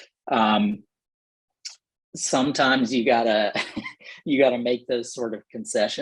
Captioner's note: laughter